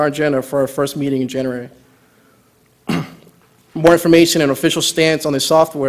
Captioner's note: cough